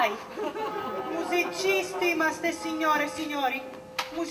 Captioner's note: γέλιο